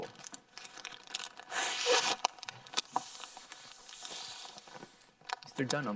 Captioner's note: plastic crackling; balloon squeaking; air whooshing